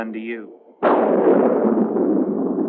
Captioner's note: thunder crashing